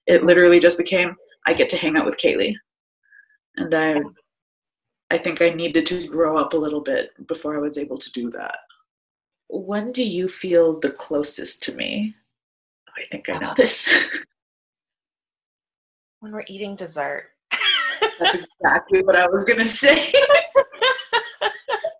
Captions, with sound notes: It literally just became, I get to hang out with Cailey. I think I needed to grow up a little bit before I was able to do that. When do you feel the closest to me? I think I know this. (chuckles) - When we're eating dessert. (laughs) - That's exactly what I was gonna say. (laughs)